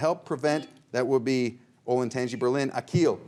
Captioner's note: buzzer beeps